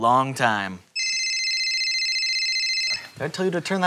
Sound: cell phone rings

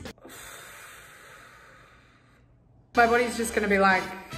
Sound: exhales loudly

